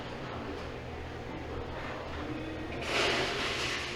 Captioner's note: loud scraping